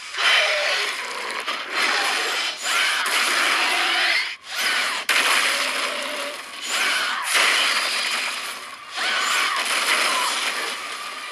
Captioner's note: growling